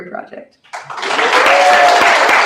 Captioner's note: applause; cheering